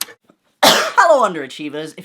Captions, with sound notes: - [Cough] Hello underachievers!